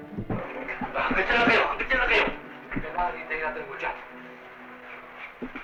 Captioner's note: non-english speech